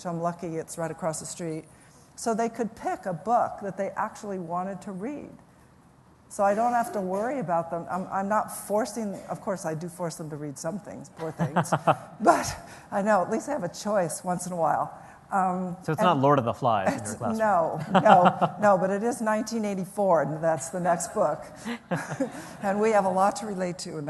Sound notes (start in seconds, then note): 11.3 Reihan Salam laughs; 17.7 laughter